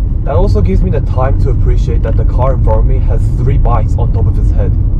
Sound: none

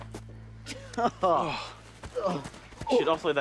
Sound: Rikki laughs

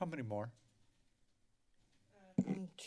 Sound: silence

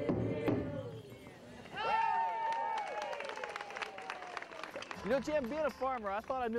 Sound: cheering

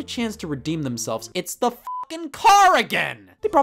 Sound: beep

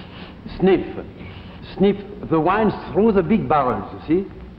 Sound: sniffing

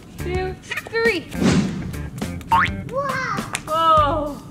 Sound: whooshing; bouncing

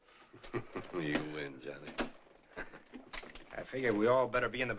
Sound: chuckles

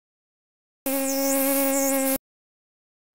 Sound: buzz

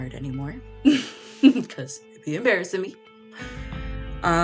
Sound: laughs

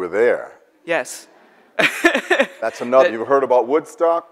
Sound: laughs

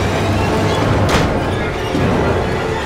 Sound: door closes

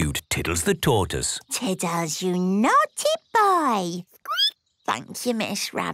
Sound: squeaking

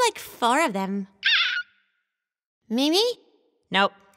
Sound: Mimi squeals

